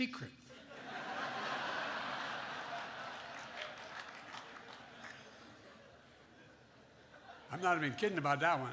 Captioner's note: laughter